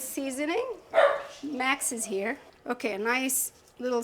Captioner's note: dog barks